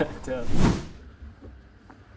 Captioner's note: whoosh